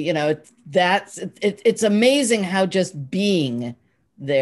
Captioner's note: none